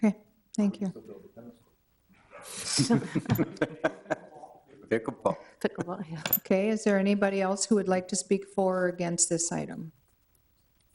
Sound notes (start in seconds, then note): 2.5 people chuckle